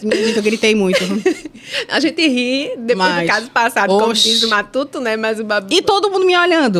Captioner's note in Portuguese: risadas